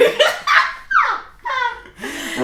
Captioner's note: laughing